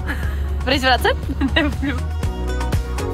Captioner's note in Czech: Smích